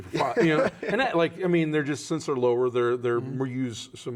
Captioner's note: laughs